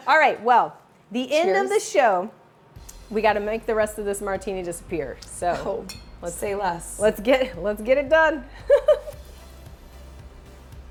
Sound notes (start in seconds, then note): 5.2 glasses clink; 8.5 chuckles